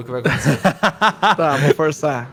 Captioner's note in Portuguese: Risos